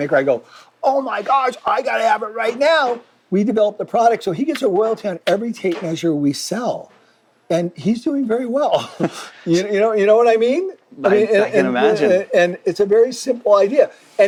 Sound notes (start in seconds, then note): 8.8 both laugh